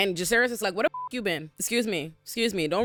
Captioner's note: beep